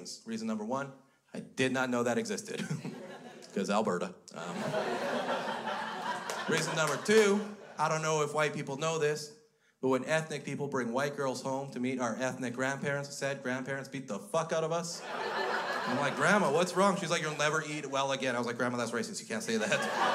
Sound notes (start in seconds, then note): 4.4 crowd laughs; 15.0 crowd laughs